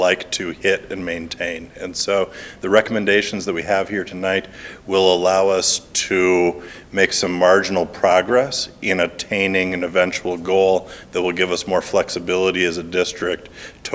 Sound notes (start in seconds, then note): none